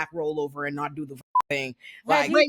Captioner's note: beep